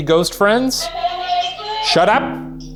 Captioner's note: Boo Buddy indistinctly chattering